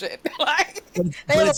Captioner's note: laughing